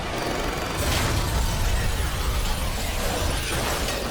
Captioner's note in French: une explosion gronde; tirs d'armes à feu